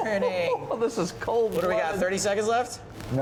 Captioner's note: laughs